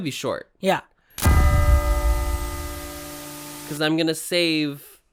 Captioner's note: bell tolls